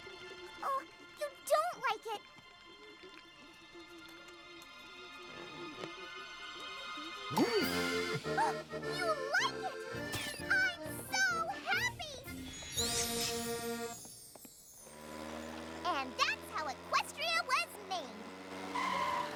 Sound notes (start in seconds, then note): 7.2 all whinny; 7.3 gasps